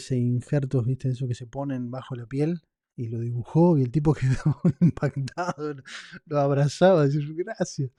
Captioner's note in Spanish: risas